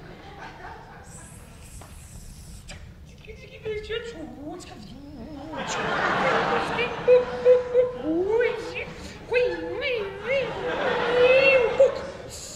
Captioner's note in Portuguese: barulhos de laboratório